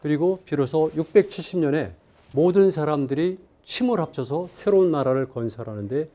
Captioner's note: speaking in Korean